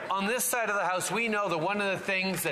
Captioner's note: applause